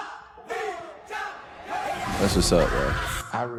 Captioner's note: crowd Chanting